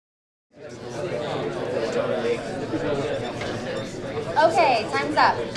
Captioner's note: audience chattering